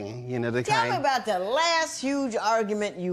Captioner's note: none